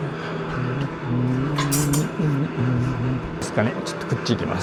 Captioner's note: humming 🎶